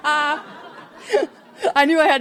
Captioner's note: attendees laughing